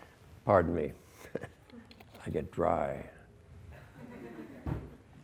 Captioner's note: laughs; students laugh